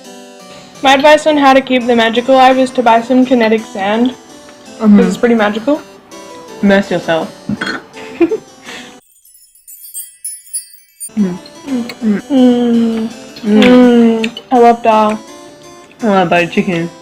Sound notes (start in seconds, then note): 8.0 giggle; 8.6 sparkly noises